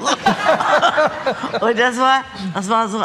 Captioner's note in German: Gelächter